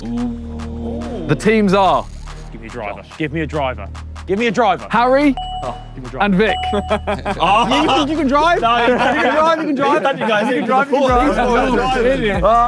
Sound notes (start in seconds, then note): 6.6 laughs